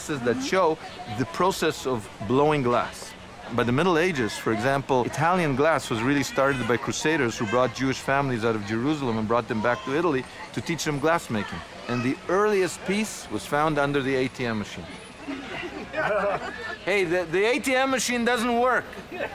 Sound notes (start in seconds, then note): 15.1 crowd laughing